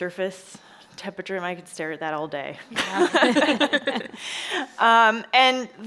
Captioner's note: chuckles